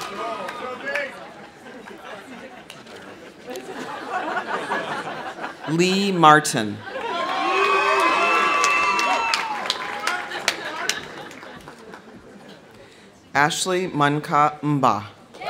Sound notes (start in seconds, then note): 1.8 people laughing; 6.8 audience cheering; 6.9 audience applauding